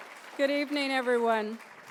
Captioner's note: applause